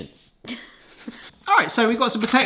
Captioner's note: snigger